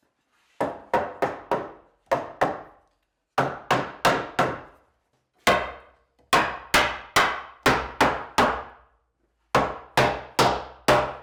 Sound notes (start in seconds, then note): 0.6 wood pounding; 6.3 mallet pounding